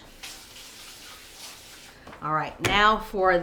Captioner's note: water splashing